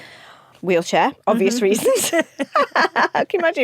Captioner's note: both laugh